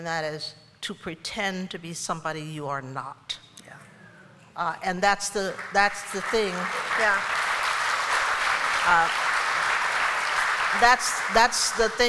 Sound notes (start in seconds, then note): 5.4 applause